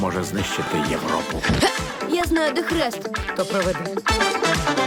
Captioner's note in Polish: stęka